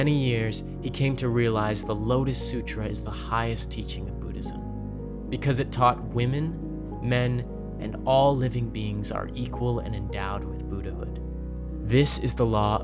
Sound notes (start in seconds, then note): none